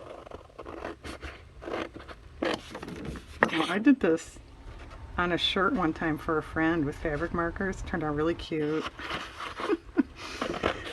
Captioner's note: laughs